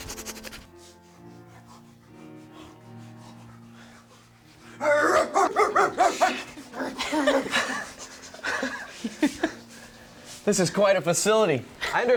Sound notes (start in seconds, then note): 1.1 distant piano; 5.2 patient barks like dog